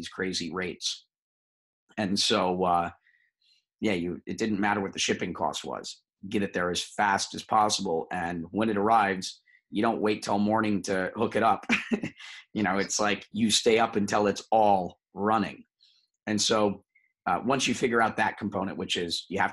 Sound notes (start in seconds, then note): 11.6 chuckles